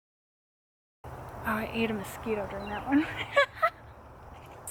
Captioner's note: laughs